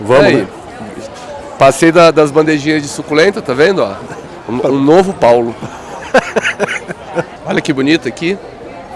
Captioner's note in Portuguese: risos